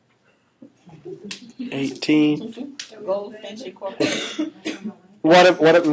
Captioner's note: laughing